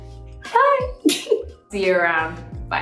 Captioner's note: chuckles